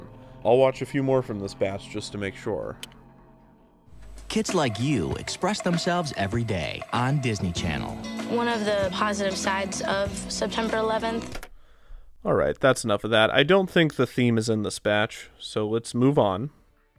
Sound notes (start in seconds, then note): 11.2 computer keyboard taps